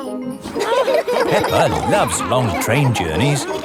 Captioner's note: laughing